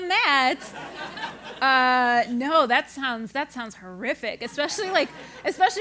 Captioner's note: laugh